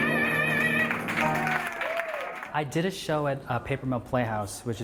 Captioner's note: applause